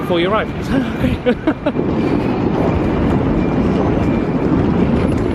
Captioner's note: laughs